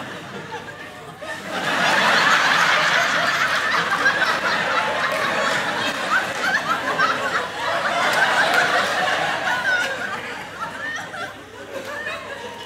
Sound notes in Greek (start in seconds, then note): 1.6 έντονα γέλια